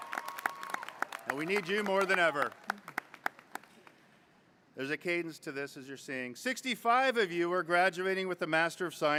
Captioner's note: applause